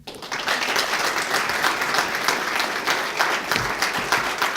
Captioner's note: audience applauding